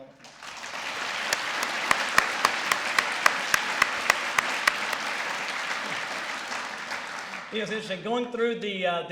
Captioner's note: applause